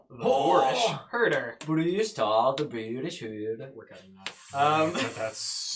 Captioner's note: bad accent